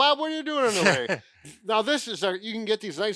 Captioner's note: chuckling